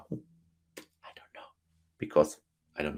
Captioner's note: whispers